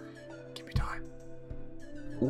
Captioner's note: whispering